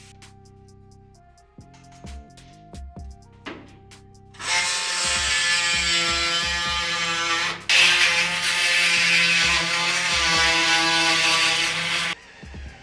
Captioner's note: drill whirring; upbeat music